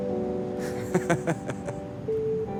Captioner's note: laughs